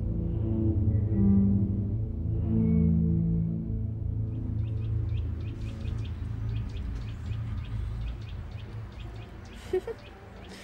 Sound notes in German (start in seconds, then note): 0.3 sphärische Musik; 4.2 Vogel Gezwitscher